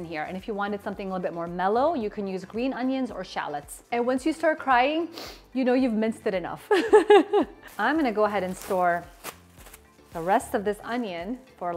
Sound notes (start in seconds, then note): 5.1 sniffles; 6.7 laughs